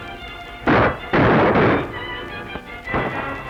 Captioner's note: gunshots